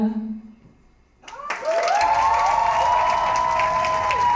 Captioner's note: applause, cheering